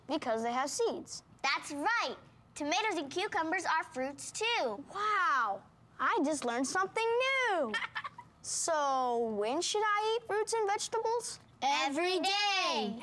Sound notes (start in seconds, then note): 7.7 laughing